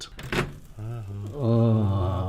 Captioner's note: sizzling